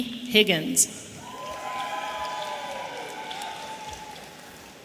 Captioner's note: audience cheering